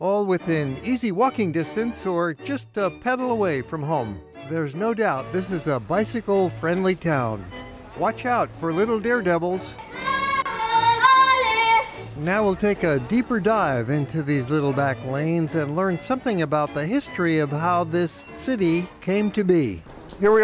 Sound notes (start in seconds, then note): 9.8 kid yells